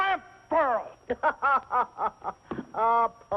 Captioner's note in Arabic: يضحك